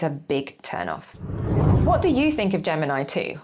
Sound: screen whooshes

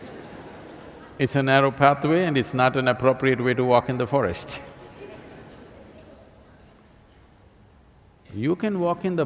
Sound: laughter; laughs

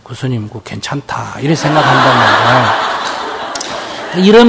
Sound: audience Laughter

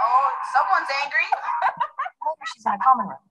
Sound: woman 4 laughs

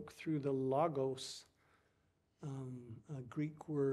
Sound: speaking foreign language

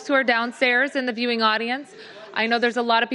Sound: crowd speaking

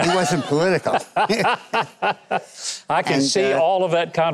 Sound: Mike laughs

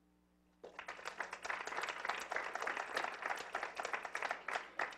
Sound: clapping

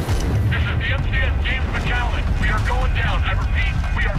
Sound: radio

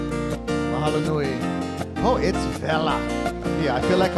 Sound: speaking in Hawaiian

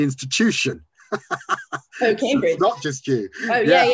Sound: laughs

